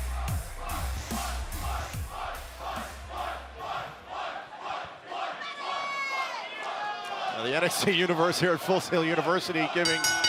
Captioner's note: fans chanting